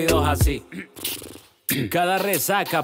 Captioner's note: clears throat